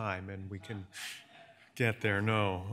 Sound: audience chuckles

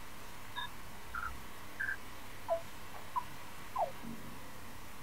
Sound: beeping

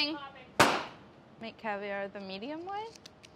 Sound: pop

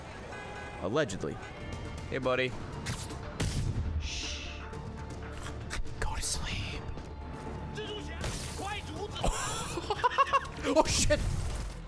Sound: shh; laughs

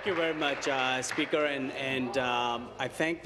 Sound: applause

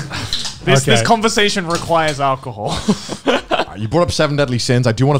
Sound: laughs

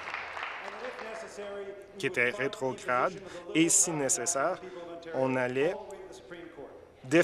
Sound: applause

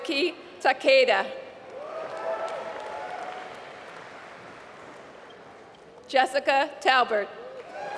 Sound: applause

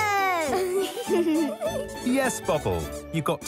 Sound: giggles

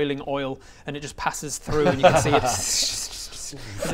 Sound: tssssssh

